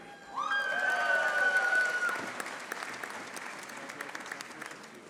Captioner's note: audience applauding